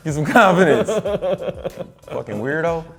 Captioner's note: laughing